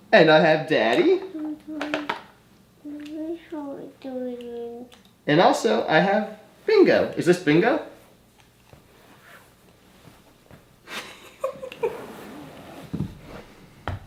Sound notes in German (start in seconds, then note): 3.2 spricht leise; 10.9 Mutter lacht